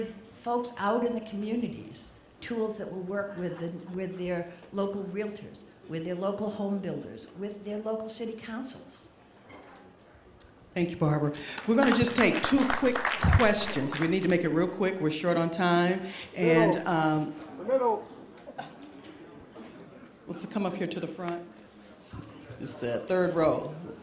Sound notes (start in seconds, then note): 9.6 applause